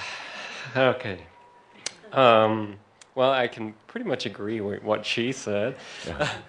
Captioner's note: sighs deeply